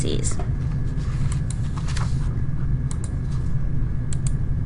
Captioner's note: mouse clicking